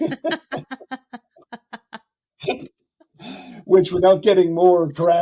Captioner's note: both laughing